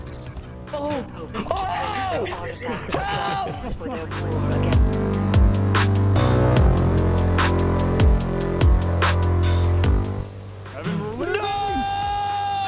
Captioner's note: outro bloops